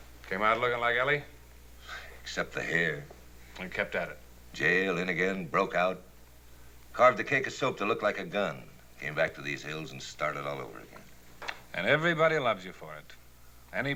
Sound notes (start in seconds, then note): 2.0 chuckles